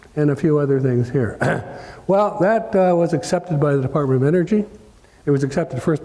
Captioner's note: cough